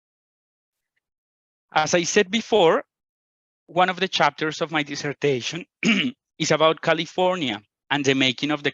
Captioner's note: clears his throat